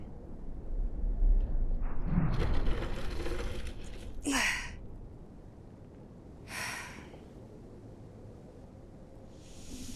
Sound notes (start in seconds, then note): 2.9 rattling; 6.5 breathing deeply